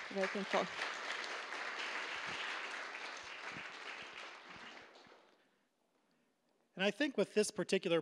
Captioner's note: applause